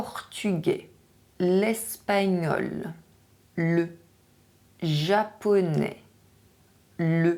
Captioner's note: Spanish